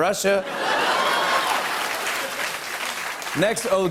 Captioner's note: laughter and applause